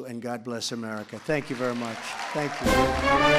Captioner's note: applause